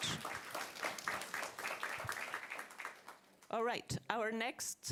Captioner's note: audience clapping